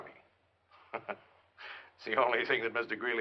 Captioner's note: chuckles